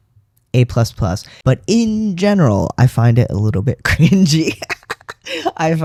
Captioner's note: laugh